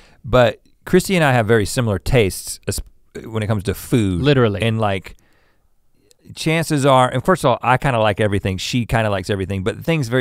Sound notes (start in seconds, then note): none